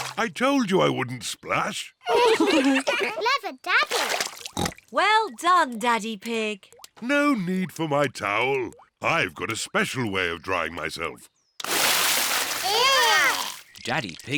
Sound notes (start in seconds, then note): 2.0 all laugh; 4.5 oinks